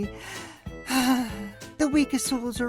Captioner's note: sigh